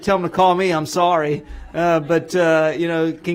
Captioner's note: laughter